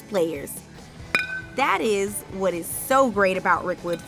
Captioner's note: bat smacking